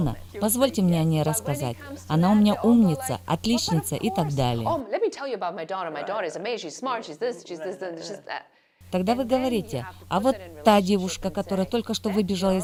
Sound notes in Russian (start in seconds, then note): 5.1 Разговаривают на английском